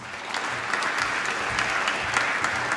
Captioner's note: applause